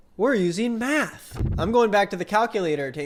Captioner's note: graphic flutters